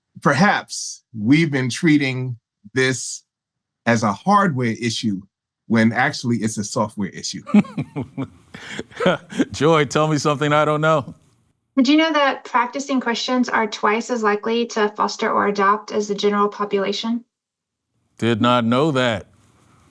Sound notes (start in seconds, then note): 7.4 laughs